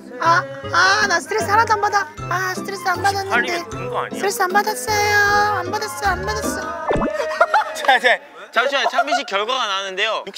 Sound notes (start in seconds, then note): 7.0 haha